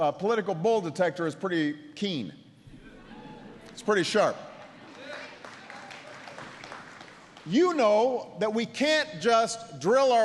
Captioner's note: applause